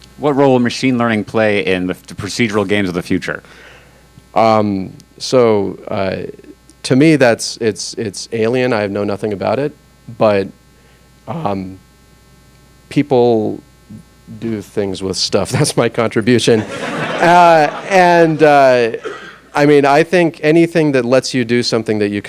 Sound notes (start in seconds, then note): 16.5 audience laughs